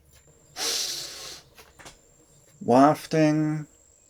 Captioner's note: sniffing sound